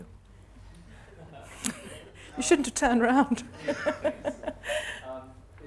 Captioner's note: laughs